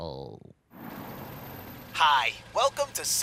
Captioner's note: car idling